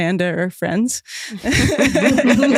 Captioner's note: chuckles